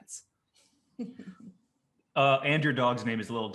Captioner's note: laughs